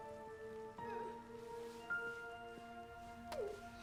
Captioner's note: woman sobs